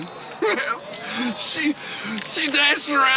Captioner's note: chuckles